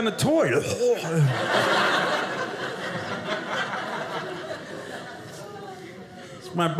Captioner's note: audience laughing